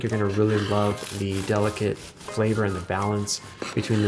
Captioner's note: knife scrapes